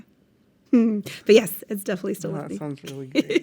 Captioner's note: chuckles